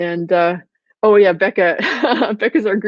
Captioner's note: laughs